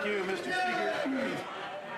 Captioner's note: some Applause